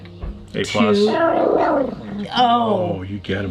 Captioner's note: Daisy growling